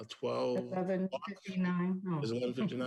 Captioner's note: chuckles